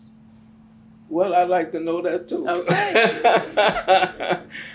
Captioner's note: laughs